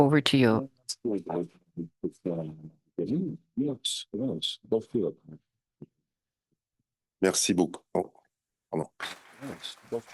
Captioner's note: speaking in French